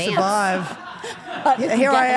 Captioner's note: off camera people laugh